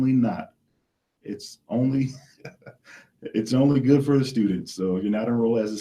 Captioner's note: laughs